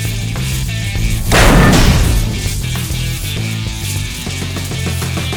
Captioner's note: sword whooshes; sword crashes